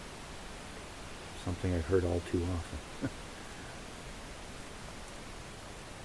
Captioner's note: chuckle